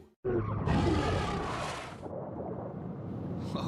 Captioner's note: shark roaring